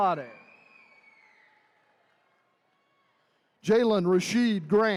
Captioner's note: attendees cheering